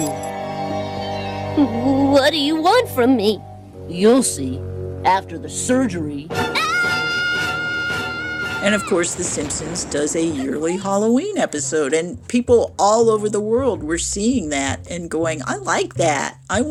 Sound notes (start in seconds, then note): 6.5 As Bart, screaming